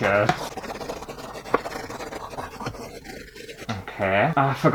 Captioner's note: pen Scraping On Canvas